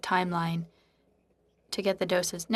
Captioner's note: speaking French